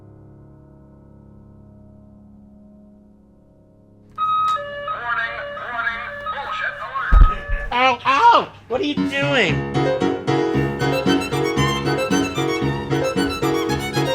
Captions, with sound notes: (siren sound effect) - Warning, warning! Bullshit! - Ow, ow! What are you doing? (lively classical music)